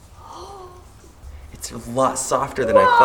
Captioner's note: gasping